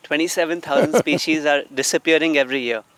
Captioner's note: Sadhguru laughs